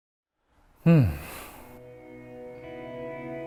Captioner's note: breathes